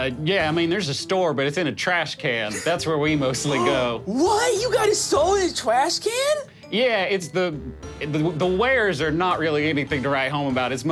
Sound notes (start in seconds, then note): 3.7 gasps